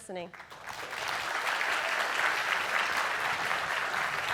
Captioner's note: clapping